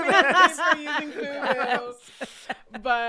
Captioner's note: all laughing